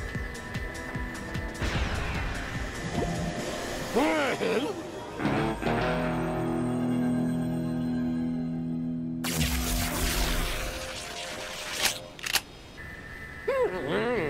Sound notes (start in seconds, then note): 2.5 suction noises; 9.2 electric buzzing; 12.1 clicks